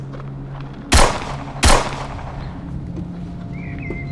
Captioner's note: gun bangs